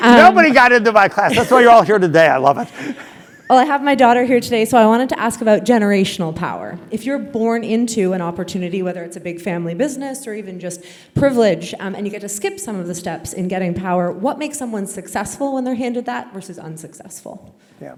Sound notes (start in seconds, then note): 2.5 laugh